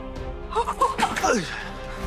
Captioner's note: gasps